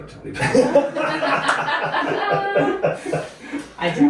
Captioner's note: laughter